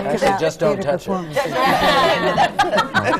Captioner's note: laughter